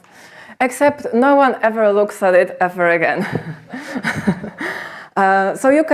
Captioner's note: chuckles